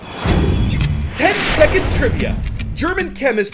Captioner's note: voice-over